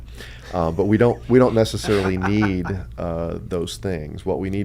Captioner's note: laughs